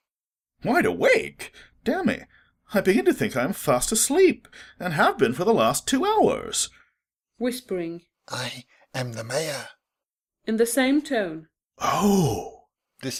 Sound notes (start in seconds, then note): 6.8 whispering